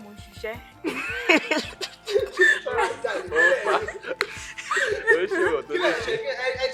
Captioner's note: everyone laughs